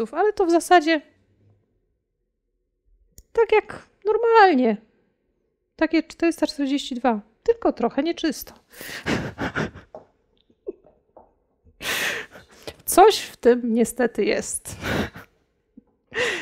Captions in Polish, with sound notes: Ale to w zasadzie... Tak jak normalnie. Takie 442 Hz. Tylko trochę nieczysto." (śmiech) Coś w tym niestety jest.